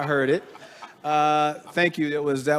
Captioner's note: laughing